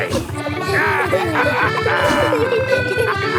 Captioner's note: all laughing